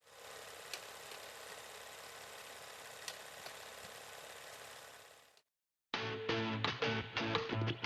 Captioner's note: film reel spinning